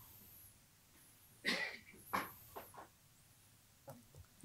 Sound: coughing in background

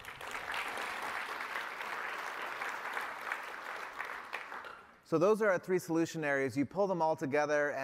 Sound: applause

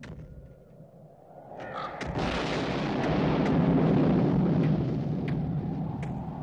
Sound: door banging; thunder rolling

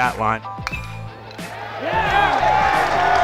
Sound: ball hitting bat; cheering

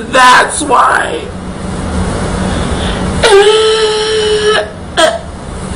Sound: moans

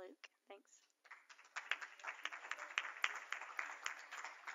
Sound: applause

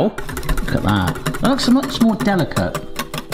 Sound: whisk clatters

